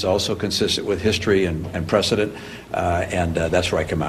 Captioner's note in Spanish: audio en ingés